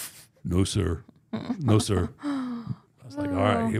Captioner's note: laughing